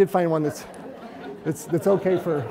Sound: audience giggling

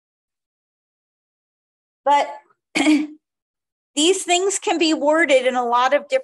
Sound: clears throat

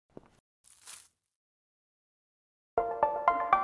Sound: grass crunching; upbeat electronic music

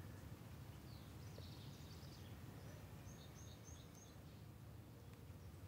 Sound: birds chirping

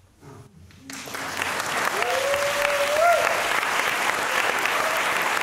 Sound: cheering, applause; applause

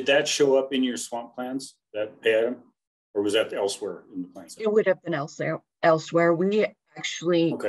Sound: talking

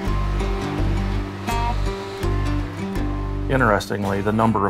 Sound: electrical buzz

